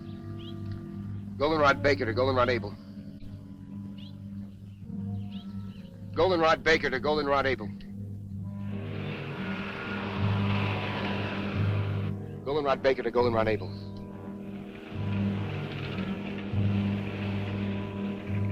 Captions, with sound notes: Goldenrod Baker to Goldenrod Abel. Goldenrod Baker to Goldenrod Abel. (engine rumbling) (suspenseful music) Goldenrod Baker to Goldenrod Abel.